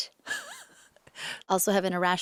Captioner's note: interviewer laughs